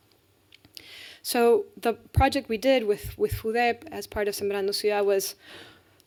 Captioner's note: speaking spanish